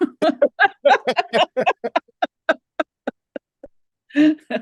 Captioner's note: both laughing